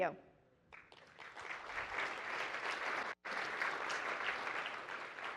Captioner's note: applause